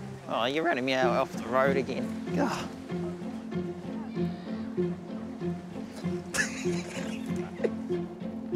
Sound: laughs

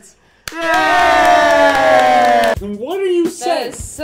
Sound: applause and cheering

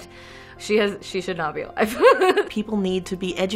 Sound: laughs

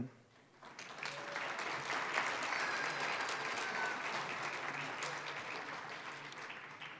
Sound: applause

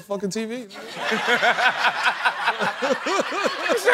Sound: laughter

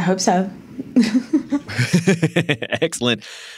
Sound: laughter

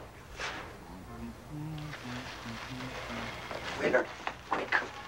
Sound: Agatha sighs; Willard humming

